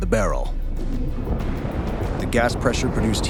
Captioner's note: round whooshes